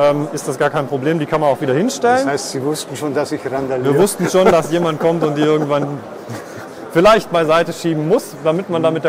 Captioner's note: laugh